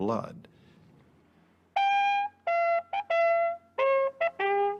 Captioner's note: horn